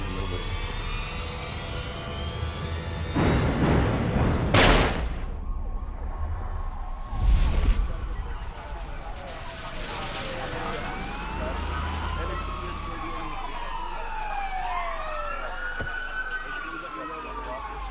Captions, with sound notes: Yeah, nobody did. ( POLICE RADIO CHATTER ) ( CAR DOOR OPENS, SHUTS )